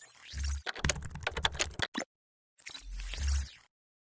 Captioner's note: keyboard clicking